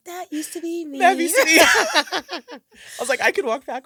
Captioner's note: laughter